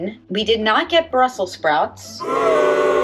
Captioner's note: crowd boos